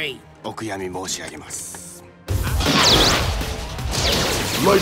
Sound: speaks foreign language

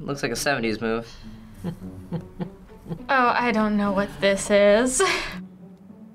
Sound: chuckling

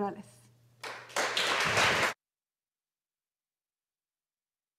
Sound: audience applauding

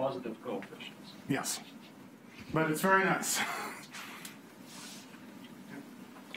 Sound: chuckles

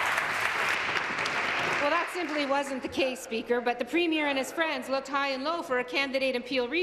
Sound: some Applause

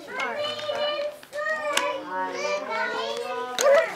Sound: background chatter

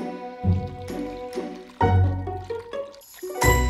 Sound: saucy pasta stirring

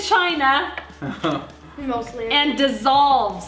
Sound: chuckles

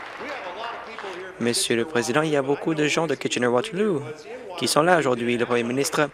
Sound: applause

